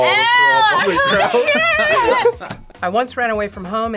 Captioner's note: both laugh